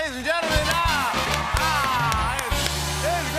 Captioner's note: cheers and applause